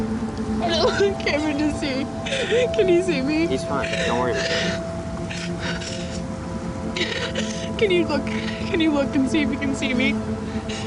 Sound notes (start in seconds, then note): 6.9 sobs